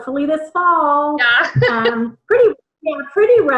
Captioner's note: laughs